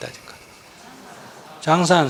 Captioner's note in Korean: 청중 웃음